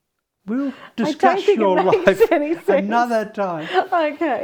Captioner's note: laughs